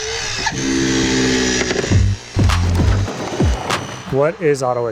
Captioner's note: spreaders buzzing